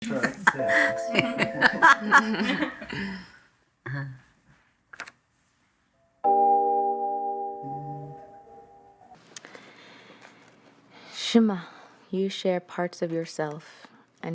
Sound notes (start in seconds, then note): 0.2 both laughing; 6.2 musical chord